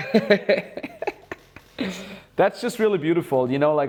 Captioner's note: laughs